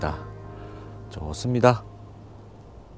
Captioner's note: voiceover